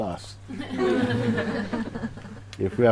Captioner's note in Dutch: Gelach